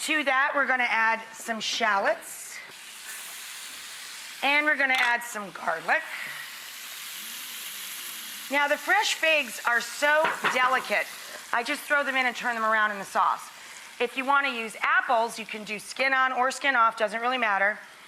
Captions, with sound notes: To that, we're gonna add some shallots. And we're gonna add some garlic. (sizzling) Now, the fresh figs are so delicate. I just throw them in and turn them around in the sauce. If you wanna use apples, you can do skin on or skin off, doesn't really matter.